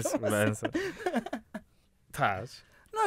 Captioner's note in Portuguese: risos